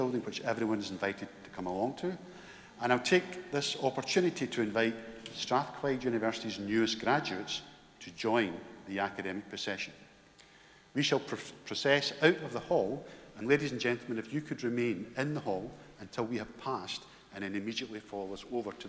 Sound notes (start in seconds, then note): none